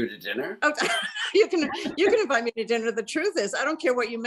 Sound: laughs

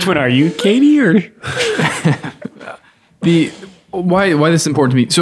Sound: all laughing

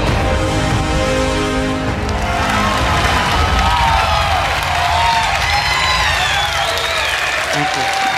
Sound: crowd claps

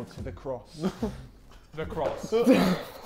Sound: Sidemen chuckling

